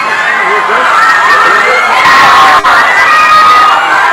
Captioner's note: people shouting